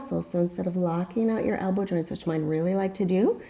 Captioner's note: deep breathing sounds